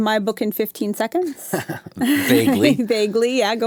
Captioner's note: chuckles